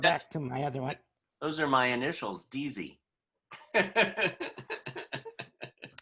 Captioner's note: laughter